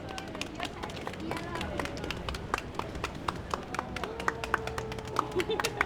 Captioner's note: applause